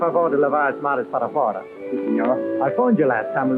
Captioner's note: speaking portuguese